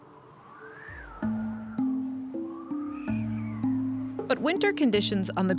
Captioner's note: wind howling